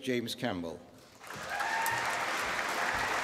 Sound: applause

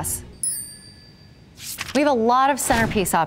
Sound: glass twinkling

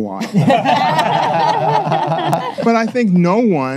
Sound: panelists laugh

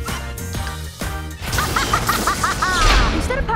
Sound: laughs

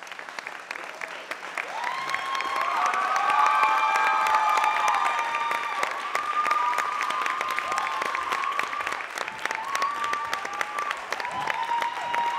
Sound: applause

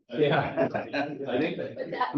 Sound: laughs

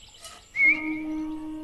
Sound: whistles

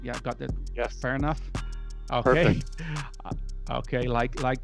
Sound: chuckles

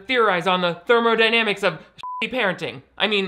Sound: beep

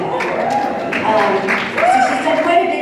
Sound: cheering

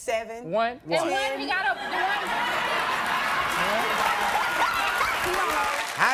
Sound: audience laughs

